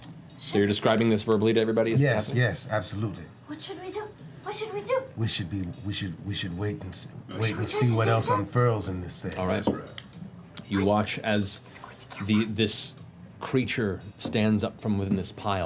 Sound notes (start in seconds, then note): none